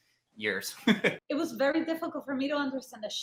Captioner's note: laughs